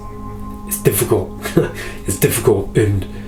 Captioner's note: laughs